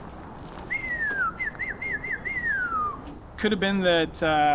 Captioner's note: whistling